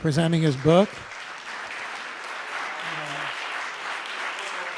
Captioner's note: audience applause